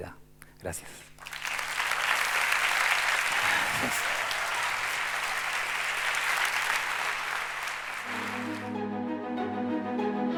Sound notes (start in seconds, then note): 2.8 applause